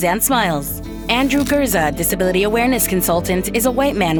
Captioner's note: camera snaps a photo; tender music continues